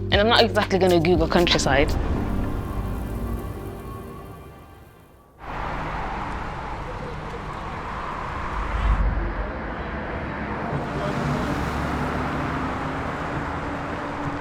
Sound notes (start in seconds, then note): 6.1 traffic rushing; 10.3 slow music playing